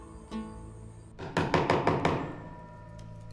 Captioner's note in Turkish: Çekiç sesi